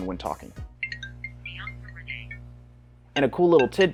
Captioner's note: iPhone ringing